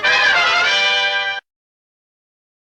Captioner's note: toot toot!